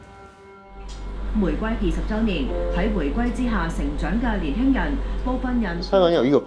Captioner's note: Cantonese Newscasting on HK's 20th Return Anniversary